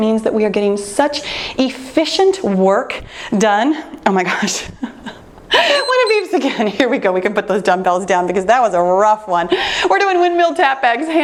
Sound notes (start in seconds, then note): 4.2 laughs; 5.6 timer beeps